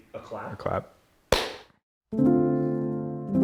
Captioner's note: hands clap; gentle music